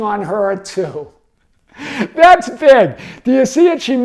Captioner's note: chuckles